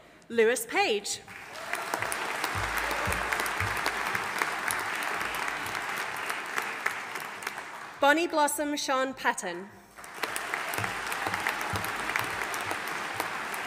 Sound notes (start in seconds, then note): 1.3 audience applauding; 9.9 audience applauding